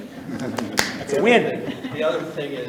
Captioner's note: people laughing